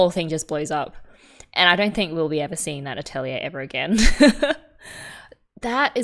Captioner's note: laughs